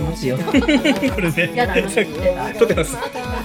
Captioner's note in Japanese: 笑い